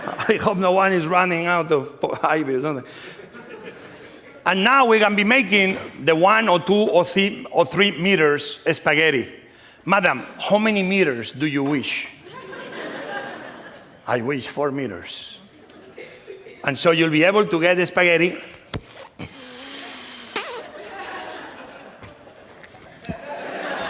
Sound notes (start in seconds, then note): 0.0 laughter; 18.5 slurping; 20.7 laughter